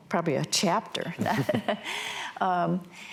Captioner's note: laughs